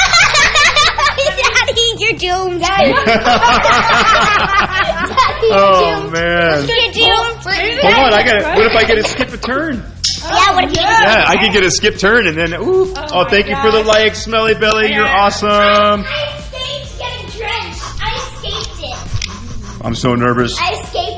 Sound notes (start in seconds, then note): 0.0 laughs